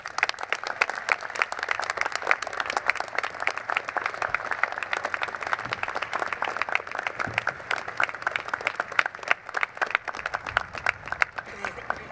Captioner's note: applause